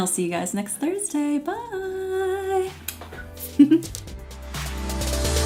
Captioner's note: giggles; upbeat electronic music